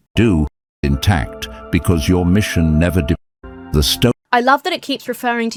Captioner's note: AI Voice